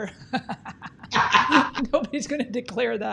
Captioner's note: laughing